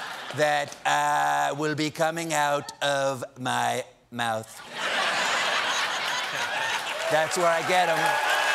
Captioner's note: laughter